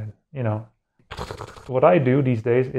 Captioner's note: tearing sound of doom